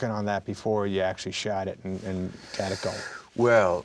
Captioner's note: mutters